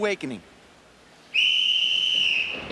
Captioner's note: whistle blowing